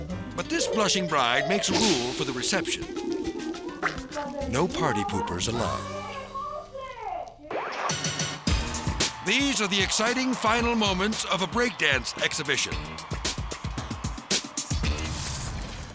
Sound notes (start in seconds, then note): 2.7 comical music; 6.0 people chattering; 7.9 upbeat music; 12.9 funky music